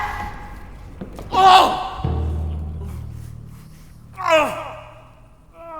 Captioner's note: Dracula groans in pain and shock; groans and sounds of struggle